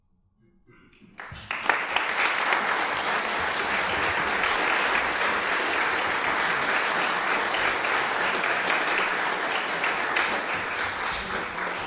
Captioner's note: applause